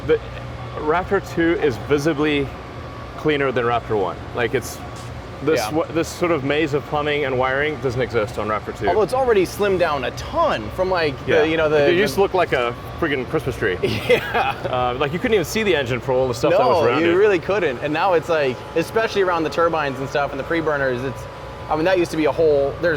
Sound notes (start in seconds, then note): 13.8 laughs